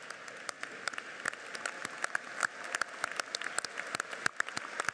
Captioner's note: audience applauds